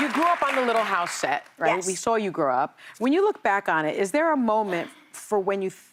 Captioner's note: applause